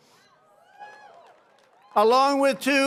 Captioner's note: applause